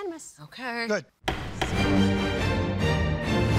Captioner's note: gavel thudding; dramatic orchestral music